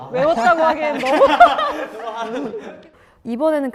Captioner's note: ha ha ha